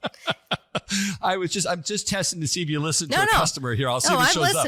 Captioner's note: laugh